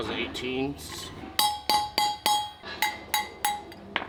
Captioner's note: metal clanking